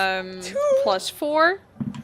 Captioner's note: ominous dice thumps